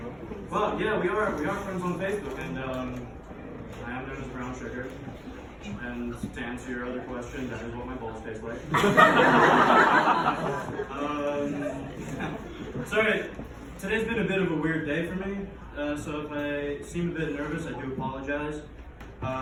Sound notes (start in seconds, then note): 8.7 audience Laughing